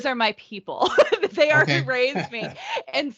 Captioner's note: laughing